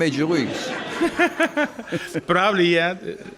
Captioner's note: crowd laughing